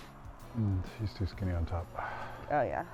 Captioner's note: upbeat music; sighs